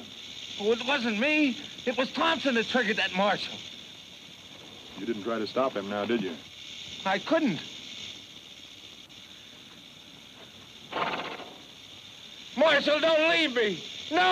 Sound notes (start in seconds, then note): 8.0 snake rattles